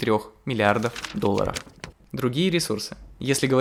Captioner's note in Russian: звуки перелистывания бумаги